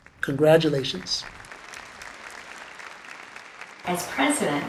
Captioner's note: audience applause